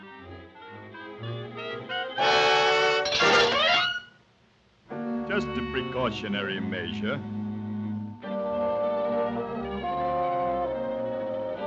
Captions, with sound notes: (dramatic music) (metal clinks) Just a precautionary measure. (light dramatic music)